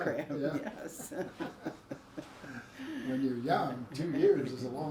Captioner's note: laughs